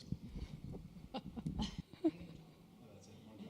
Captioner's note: chuckle